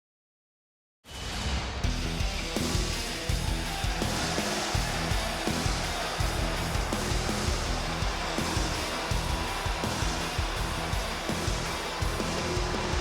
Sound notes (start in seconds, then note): 1.6 crowd boos; 1.6 orchestral rock music